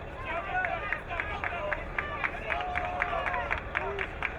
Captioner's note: crowd cheering